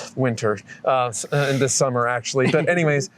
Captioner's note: laughter